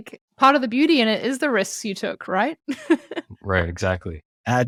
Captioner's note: laughs